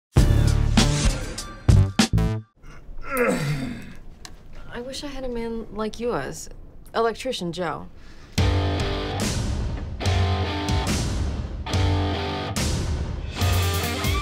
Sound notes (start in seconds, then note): 3.0 grunting